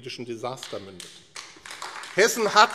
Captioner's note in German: Beifall AfD